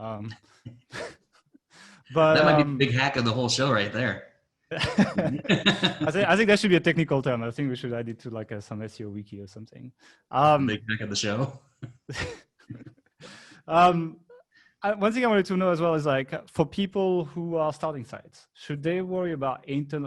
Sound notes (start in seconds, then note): 0.2 laughing; 11.0 faintly speaking; 12.6 laughing